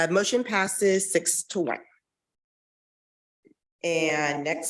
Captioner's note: none